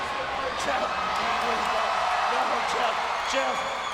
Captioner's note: spectators cheering